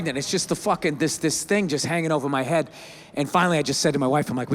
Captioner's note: none